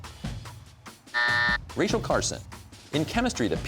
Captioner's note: buzzer